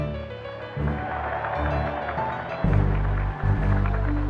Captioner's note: applause